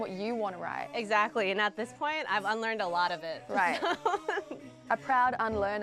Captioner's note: laughs